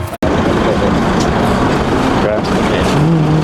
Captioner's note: engine revving